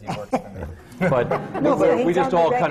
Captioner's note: laughter